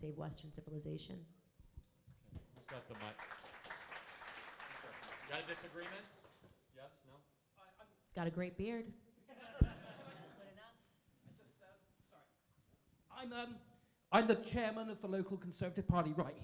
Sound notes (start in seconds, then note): 9.3 laughing